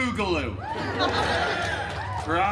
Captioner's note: guests cheering and laughing